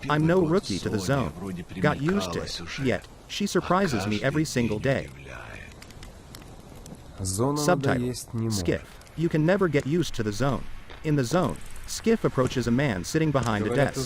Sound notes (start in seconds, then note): 10.8 footsteps